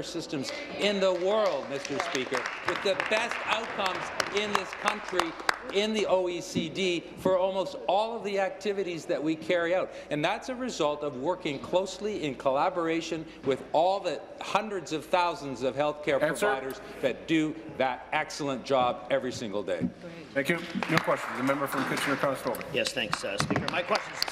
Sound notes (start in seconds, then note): 4.9 applause